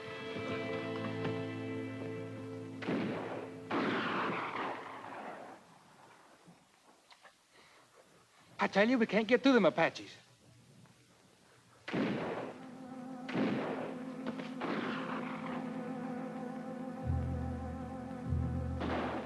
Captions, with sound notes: (distant guns fire) - I tell you, we can't get through 'em Apaches. (distant guns fire) (suspenseful music)